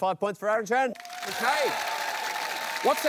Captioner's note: cheering, applause